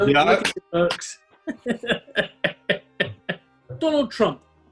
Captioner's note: chuckling